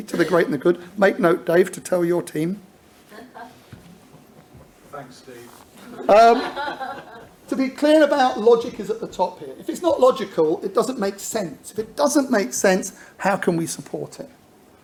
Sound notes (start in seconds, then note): 5.8 audience laughs